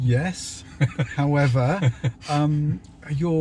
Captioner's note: laughing